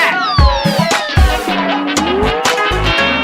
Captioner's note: boing!